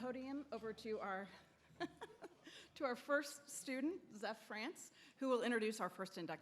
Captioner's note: laughs